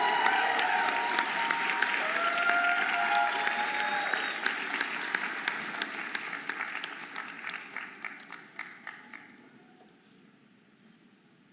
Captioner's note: audience applauding and cheering